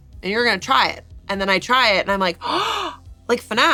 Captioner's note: gasps